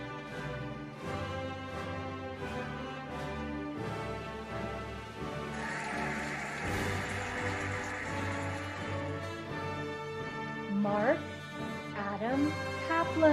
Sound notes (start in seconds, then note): 5.4 cheering and applauding